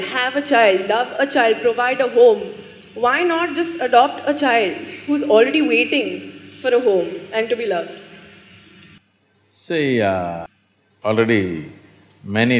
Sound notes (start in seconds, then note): none